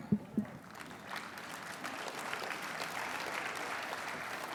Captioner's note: applause